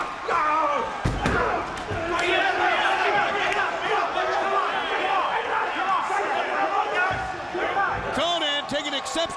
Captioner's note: crowd chatter